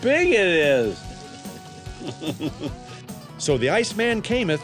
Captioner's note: laughing